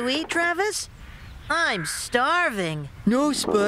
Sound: stomach Growls

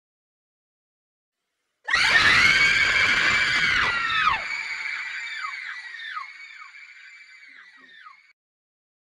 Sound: female scream

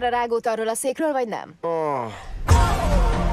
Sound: sighs

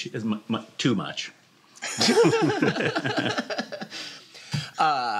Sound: laughter

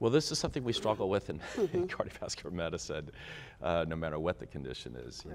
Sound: laughs

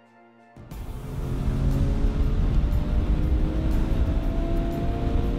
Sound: car racing

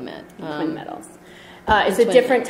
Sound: voiceover

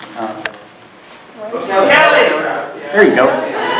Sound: audience shout

